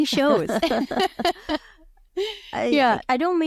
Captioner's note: both laughing